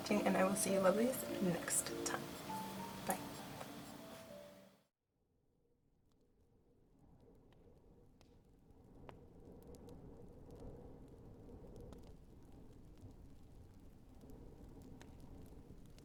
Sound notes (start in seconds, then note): 5.2 fire crackling